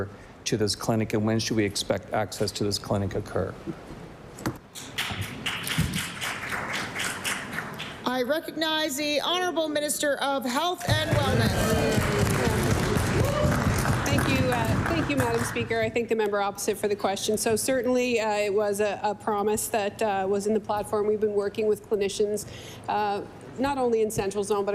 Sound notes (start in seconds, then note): 10.8 some Applause; 16.2 applause